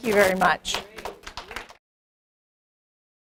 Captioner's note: applause